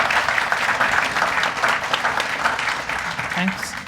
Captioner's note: applause